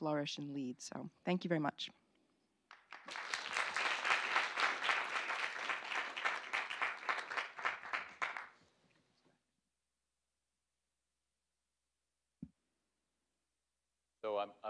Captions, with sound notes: OUR STATE'S FUTURE. THAT'S AN AREA THAT WE SEE GREAT POTENTIAL FOR USM TO GROW AND EXPAND AND FLOURISH AND LEAD. THANK YOU VERY MUCH. [APPLAUSE]